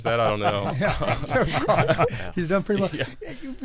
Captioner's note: laughs